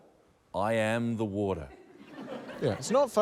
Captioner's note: laughter